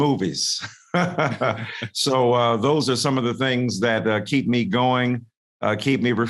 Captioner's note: laughs